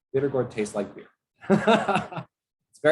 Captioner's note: laughter